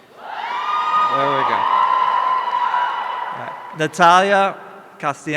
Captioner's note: audience cheering